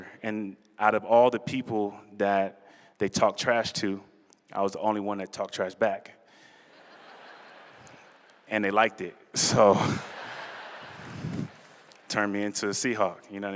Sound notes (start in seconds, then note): 6.6 laughter